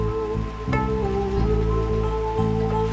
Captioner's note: water rushing